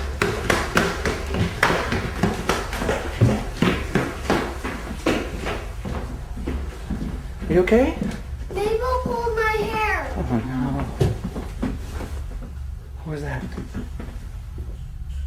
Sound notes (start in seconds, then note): 11.3 bang from ceiling